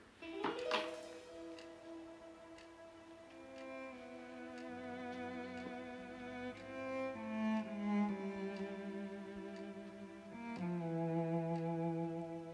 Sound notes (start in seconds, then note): 0.1 mysterious music; 3.0 clock ticking